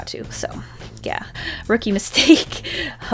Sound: laughs

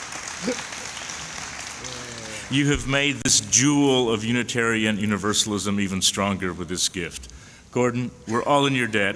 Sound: applause

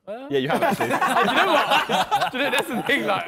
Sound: men laughing

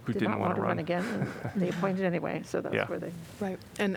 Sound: laughter

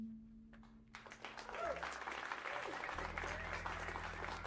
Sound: cheers and applause

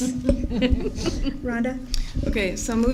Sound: laughter

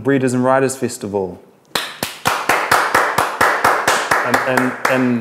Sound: applause

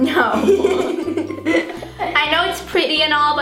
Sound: laughs

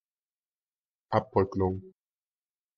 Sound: fast Pronunciation

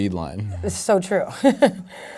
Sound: laughing

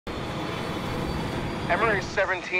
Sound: plane engine whooshing

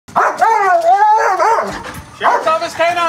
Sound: barking

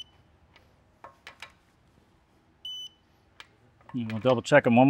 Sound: beeping

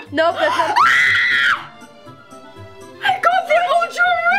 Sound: screams

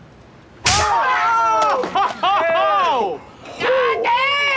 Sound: laughing

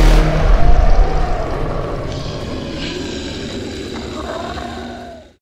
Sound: snarling and growling

